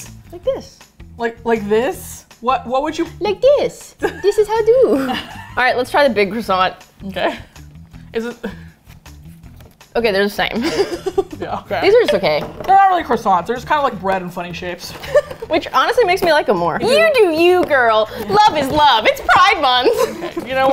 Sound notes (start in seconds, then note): 2.9 innocently; 4.0 laughs; 4.0 innocently; 10.5 laughs; 15.3 laughs